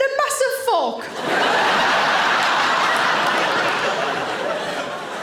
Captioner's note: audience laughing